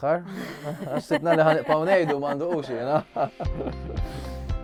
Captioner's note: chuckles